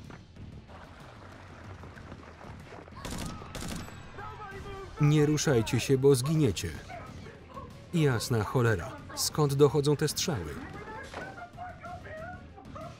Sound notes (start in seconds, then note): 3.0 gun firing